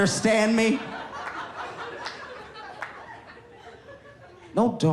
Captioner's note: audience laughing